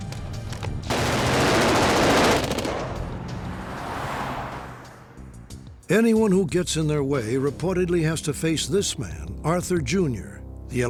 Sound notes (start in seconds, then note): 0.9 gunshots